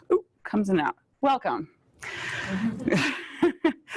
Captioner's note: laughs